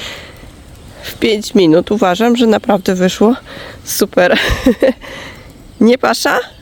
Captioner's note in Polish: śmiech